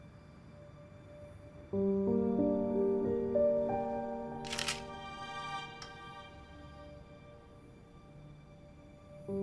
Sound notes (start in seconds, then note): 4.4 camera shutter snapping